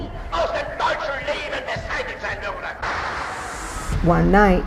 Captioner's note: Hitler speaking in foreign language